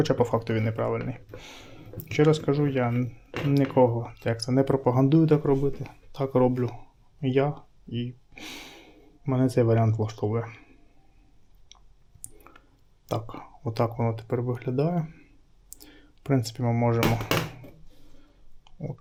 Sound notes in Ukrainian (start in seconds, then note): 8.4 сопіння